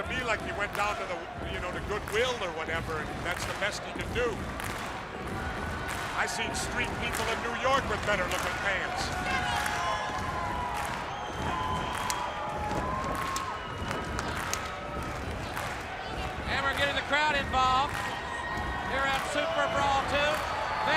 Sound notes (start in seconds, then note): 9.3 crowd cheering